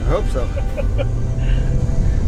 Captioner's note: laughing